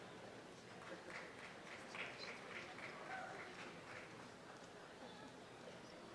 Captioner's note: audience applause